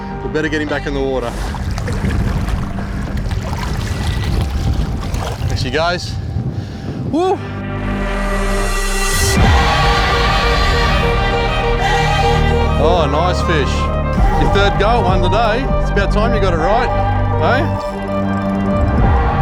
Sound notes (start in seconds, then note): 1.1 water sloshing; 9.7 dramatic chanting